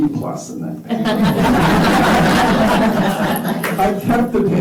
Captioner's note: laughter